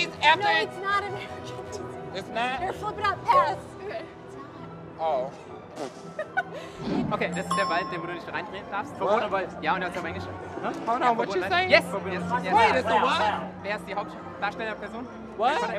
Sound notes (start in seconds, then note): 6.0 laughter; 7.1 speaks German; 11.9 speaks German